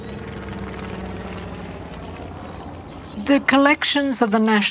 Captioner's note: aeroplane engine roaring